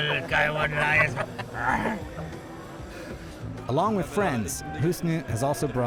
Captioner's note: roars